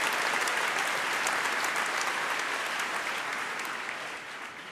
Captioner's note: applause